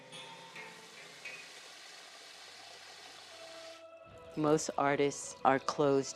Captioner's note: water is flowing from a faucet